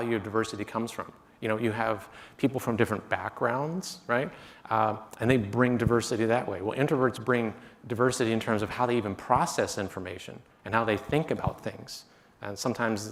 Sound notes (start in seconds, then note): none